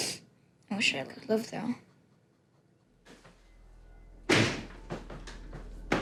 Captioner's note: sniffling; door creaking